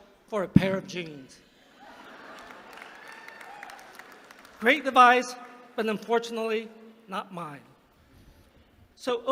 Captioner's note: laughter; applause